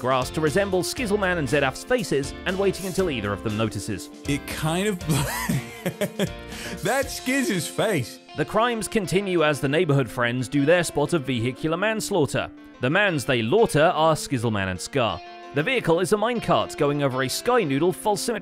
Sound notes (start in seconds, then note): 5.1 wheeze-laughs